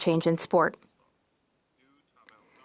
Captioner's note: speaking French